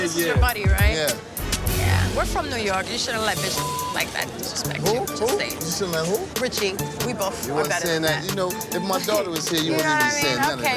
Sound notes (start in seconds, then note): 3.3 beep sound